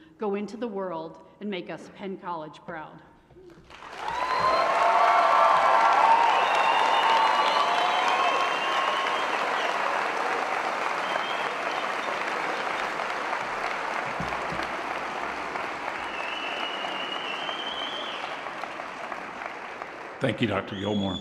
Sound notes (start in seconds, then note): 3.9 cheering and Applause